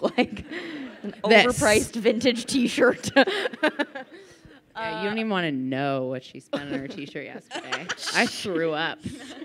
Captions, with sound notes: Overpriced vintage t-shirt. - You don't even want to know what she spent on her t-shirt yesterday. (laughing) I threw up.